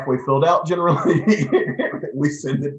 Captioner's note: laughing